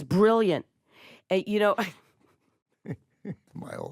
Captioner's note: chuckles